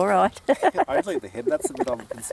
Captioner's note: laughter